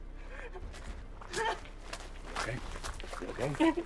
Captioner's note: Marisol sobbing